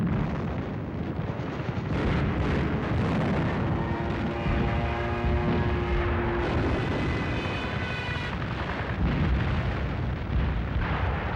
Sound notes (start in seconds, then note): 4.1 bombs exploding; 4.1 planes buzzing